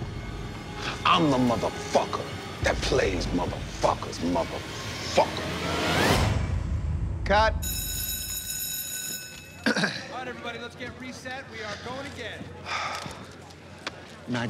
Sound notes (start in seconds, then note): 7.6 bell ringing; 9.6 clearing throat; 12.6 exhaling